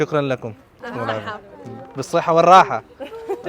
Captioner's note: Arabic